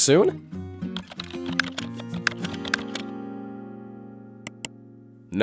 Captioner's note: keyboard keys clacking